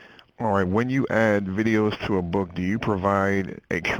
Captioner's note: voiceover